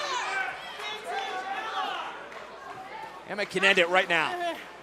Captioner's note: crowd chatter